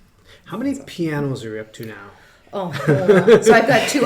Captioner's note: laughs